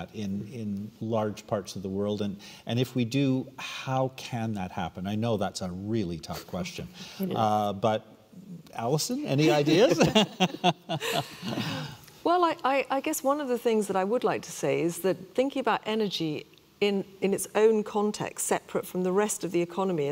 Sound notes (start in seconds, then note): 9.5 all laughing